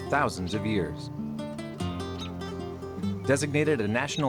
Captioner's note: birds chirping; gentle music